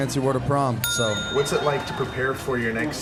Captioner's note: ding!